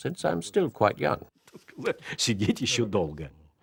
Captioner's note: laughs